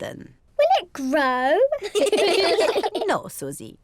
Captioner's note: all laugh